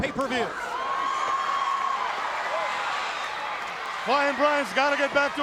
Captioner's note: crowd roaring